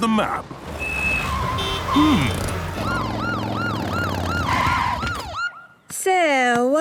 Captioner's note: honking, sirens